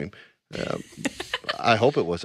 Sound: laughing

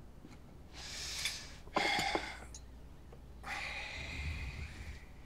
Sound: breathing sound

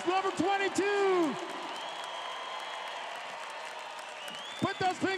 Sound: crowed cheering

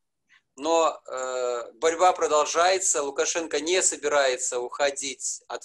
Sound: speaking foreign language

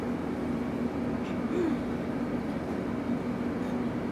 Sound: clears throat

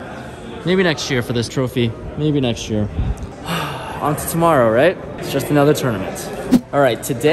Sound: sigh

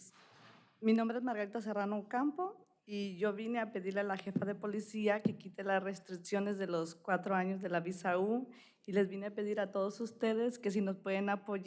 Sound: speaking spanish

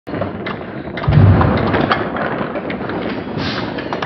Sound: slow motion Marble Machine X sounds

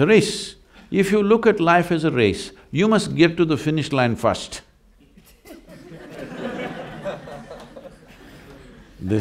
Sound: laughter

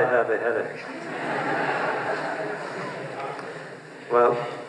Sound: laughter

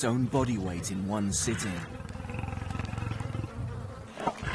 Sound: lion growls

